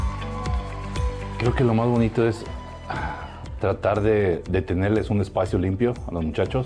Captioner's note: audience cheering and applauding; speaking in foreign language